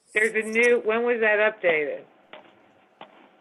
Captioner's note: phone